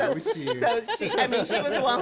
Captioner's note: laughter